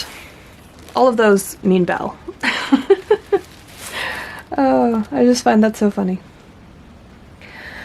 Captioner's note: laughs